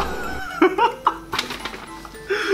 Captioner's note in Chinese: 爆笑